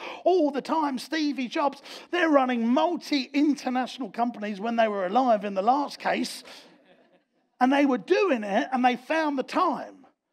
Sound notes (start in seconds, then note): 6.7 audience laughs